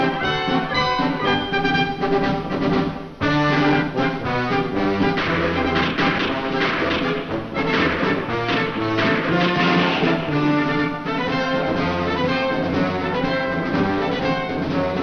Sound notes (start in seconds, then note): 4.8 gunfire; 11.6 upbeat marching music